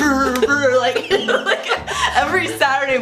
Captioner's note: both laughing